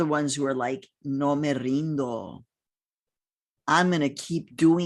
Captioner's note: speaking in foreign language